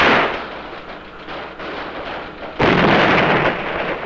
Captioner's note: pistol shooting